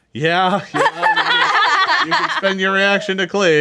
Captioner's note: group laughs